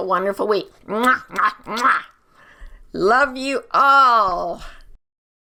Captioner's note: kiss blowing